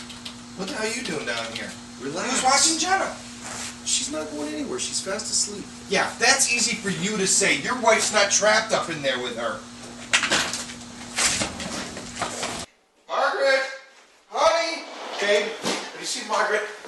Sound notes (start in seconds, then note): 0.5 typing; 10.5 door. rushed footsteps; 14.2 door